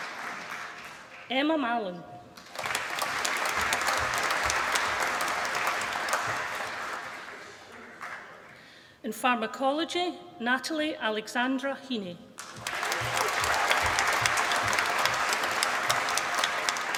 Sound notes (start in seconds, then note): 2.3 applause; 12.4 applause